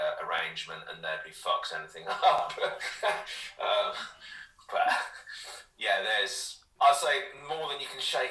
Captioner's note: laughter